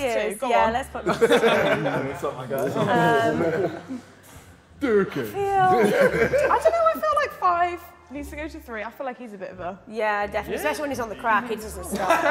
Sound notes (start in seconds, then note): 3.4 JJ and Simon laughing